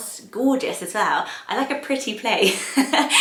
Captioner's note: giggling